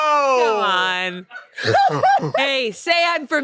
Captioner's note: laughs